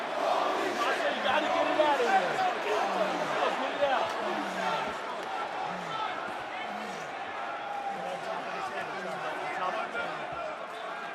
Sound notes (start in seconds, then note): 3.6 crowd chatter; 4.1 crowd cheering